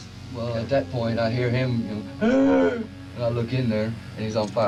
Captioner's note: gasping